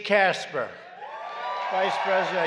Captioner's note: applause